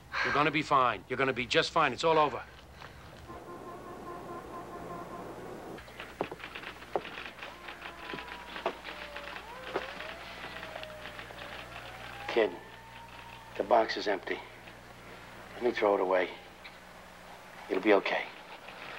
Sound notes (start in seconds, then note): 3.2 horns beeping; 5.8 keys tapping; 6.0 siren wails